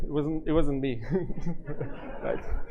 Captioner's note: laughter